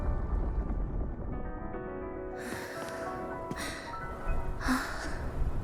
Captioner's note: sigh